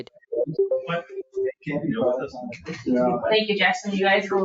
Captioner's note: group indistinctly chatting